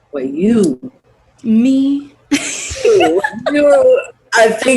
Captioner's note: laughs